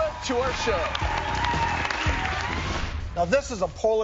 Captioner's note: applause